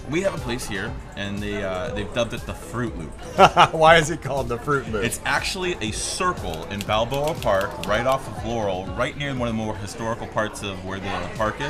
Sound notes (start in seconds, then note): 3.3 laughs